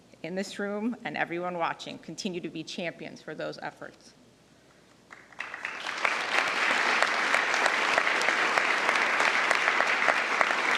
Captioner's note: applause